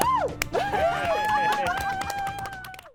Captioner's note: cheers and applause